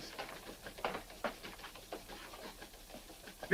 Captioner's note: footsteps tapping